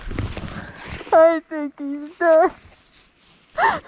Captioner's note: crying